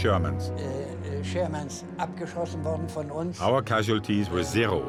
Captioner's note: speaking in foreign language